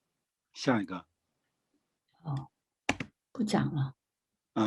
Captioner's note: speaking in foreign language